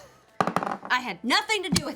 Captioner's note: rolls dice